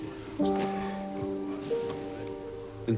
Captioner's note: exhales